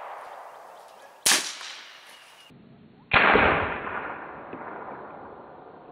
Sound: gunshot

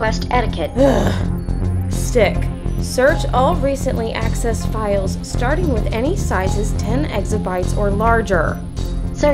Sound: sigh

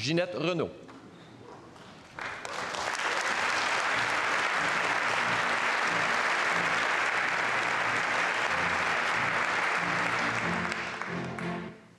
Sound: speaking French; applause

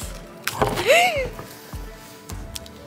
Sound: coffee slips, gasps

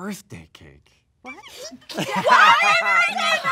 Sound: laughs

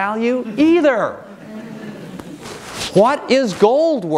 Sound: audience laughing

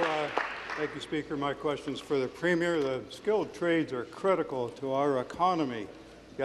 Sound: applause

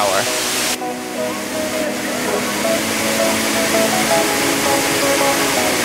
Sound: waterfall rushing

